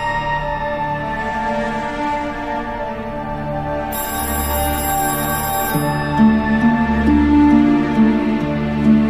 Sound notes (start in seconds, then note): 3.9 ringing continues